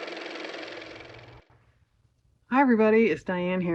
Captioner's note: car motor